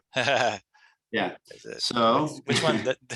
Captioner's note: chuckles